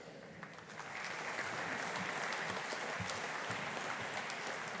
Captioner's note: audience applauding